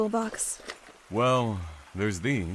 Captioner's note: rustling; toolbox opens